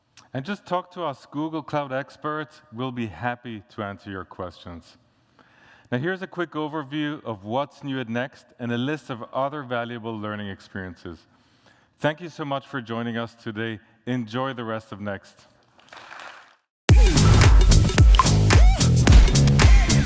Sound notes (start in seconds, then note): 15.8 applause